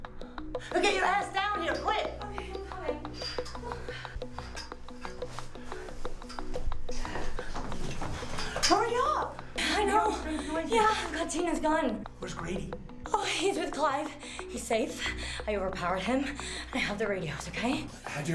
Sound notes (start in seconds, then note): none